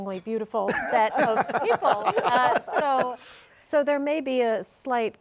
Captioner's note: all laughing